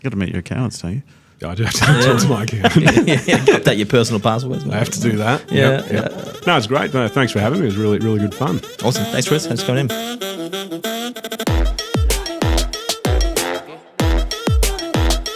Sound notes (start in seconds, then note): 2.6 all laugh; 11.5 upbeat music